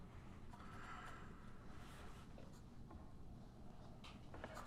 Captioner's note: pencil scratching